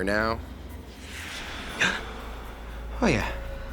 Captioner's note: voice murmuring